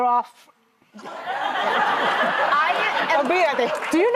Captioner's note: laughter